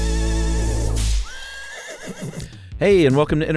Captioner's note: horse neighs